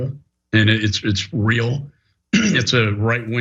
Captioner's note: cough